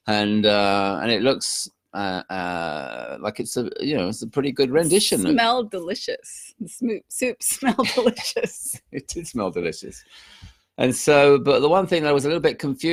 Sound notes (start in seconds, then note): 7.8 chuckling